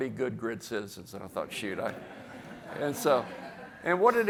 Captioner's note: audience laughs